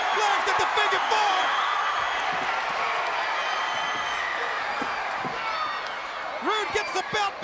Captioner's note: crowd cheering